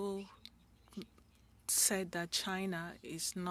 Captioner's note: speaking French